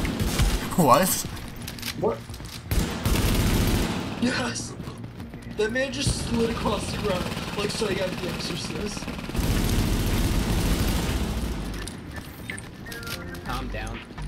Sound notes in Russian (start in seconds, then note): 2.7 огонь очередями; 9.3 беглый огонь